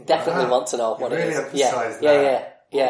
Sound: laughs

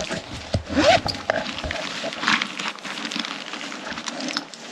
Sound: bag unzipping

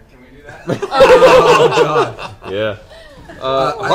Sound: all laugh

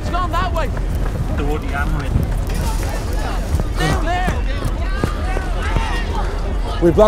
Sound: crowd

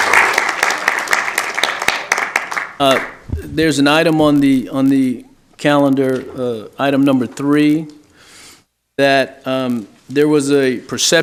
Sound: applause

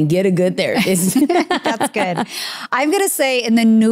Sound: both laughing

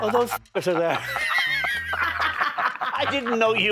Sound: laughing

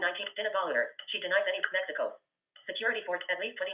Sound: VoiceOver voice

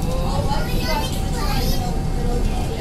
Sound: bus Noises and General Chatting

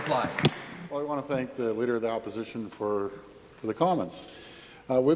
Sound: applause

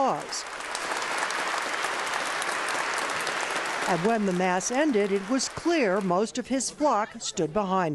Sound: applause

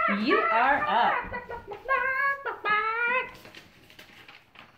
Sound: clucking

